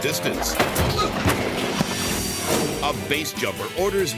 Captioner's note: motorbike thuds; person thuds